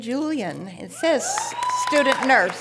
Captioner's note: audience cheering and applause